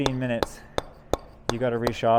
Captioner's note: metal hammering